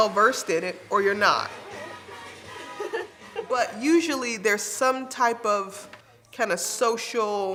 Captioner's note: laugh